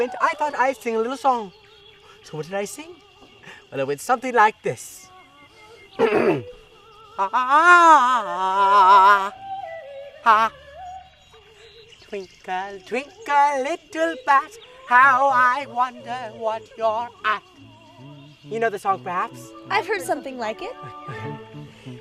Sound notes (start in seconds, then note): 6.0 clears throat; 7.3 sings a scale